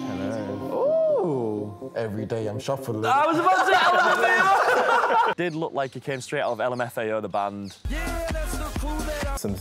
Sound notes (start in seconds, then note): 3.1 laughs